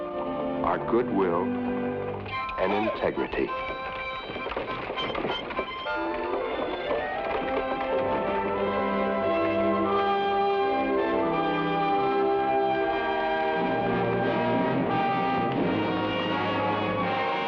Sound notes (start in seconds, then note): 4.6 carriage wheels rumble; 9.5 adventurous music